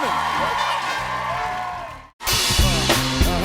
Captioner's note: cheers and applause